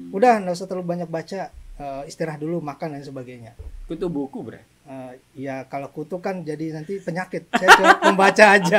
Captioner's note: laughs